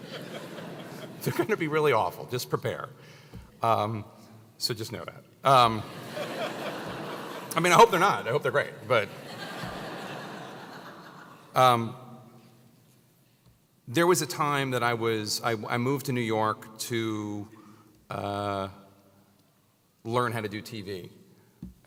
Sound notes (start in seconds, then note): 0.1 laugh; 5.9 laugh; 11.4 laugh